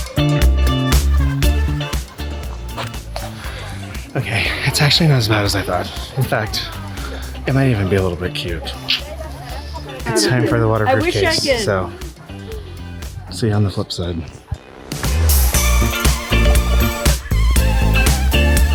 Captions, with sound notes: - Okay, it's actually not as bad as I thought. In fact, it might even be a little bit cute. (clicks tongue) It's time for the waterproof case, so see you on the flip side. (upbeat music continues)